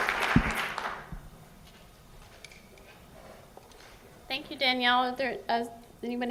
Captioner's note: applause